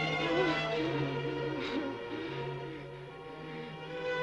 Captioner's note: Ruth whimpering